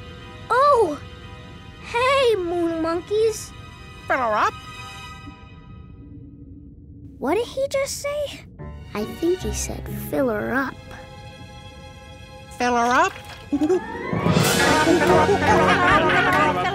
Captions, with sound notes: Oh. Hey, moon monkeys. Filler up? What did he just say? I think he said, "Filler up." Filler up? [chattering] Fillerup, fillerup, fillerup, fillerup, fillerup.